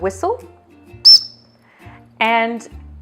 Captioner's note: whistle whistles